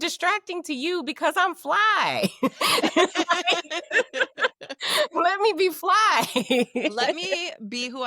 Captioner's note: laughing